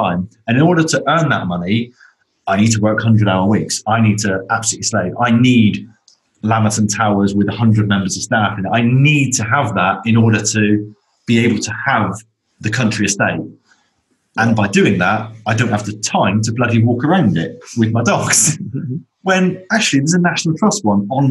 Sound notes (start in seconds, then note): 18.6 chuckles